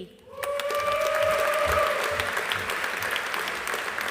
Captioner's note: audience applauding